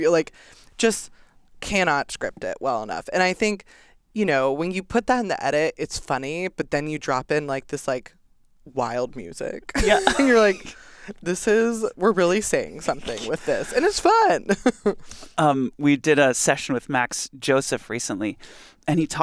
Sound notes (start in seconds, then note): 15.1 laughs